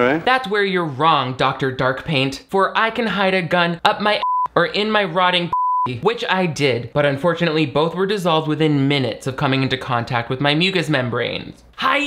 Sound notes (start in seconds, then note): 5.5 beep